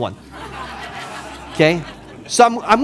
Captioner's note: audience laughing